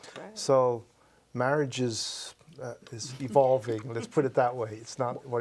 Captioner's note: laughs